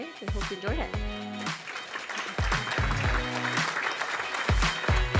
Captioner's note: audience applause